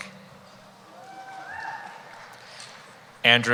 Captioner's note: cheering